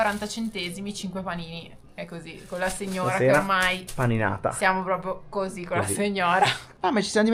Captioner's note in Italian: risate